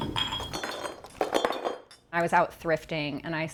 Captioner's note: objects clatter